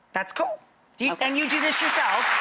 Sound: audience applauding

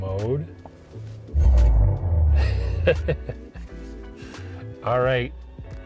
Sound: icon FX thuds softly; chuckles

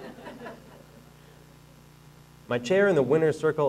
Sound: audience laughing

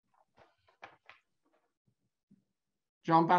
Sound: pages rustling

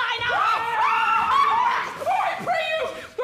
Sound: Helena screams

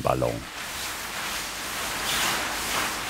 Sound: rustling of the fabric

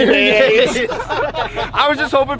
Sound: laughing

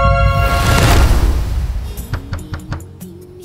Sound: door banging; knocking

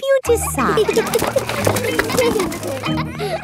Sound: kids giggling

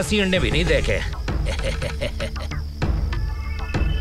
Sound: laughs

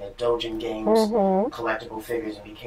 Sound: sounds of agreement

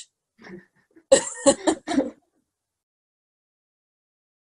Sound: both laughing

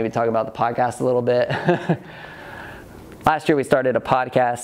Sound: chuckles

